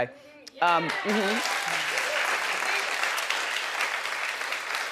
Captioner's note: audience clapping